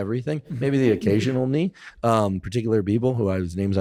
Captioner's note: laughs